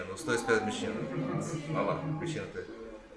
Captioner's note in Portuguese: risos